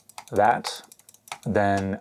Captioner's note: clicking mouse buttons